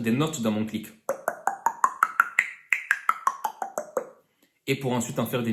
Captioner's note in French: clicks